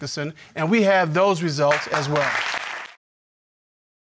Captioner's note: audience applauding